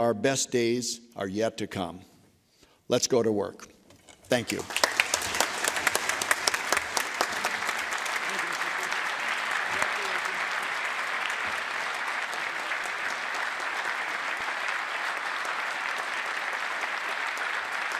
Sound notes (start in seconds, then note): 9.4 applause